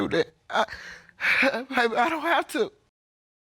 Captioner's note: breathes deeply